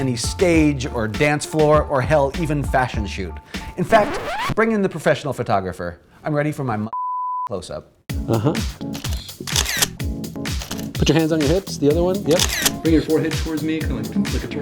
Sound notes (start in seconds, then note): 3.8 record screech; 8.9 camera shutter